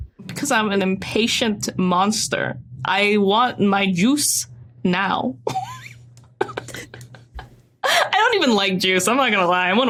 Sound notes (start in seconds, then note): 5.4 giggles